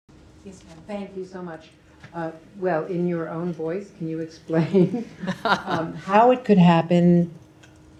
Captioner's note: laughter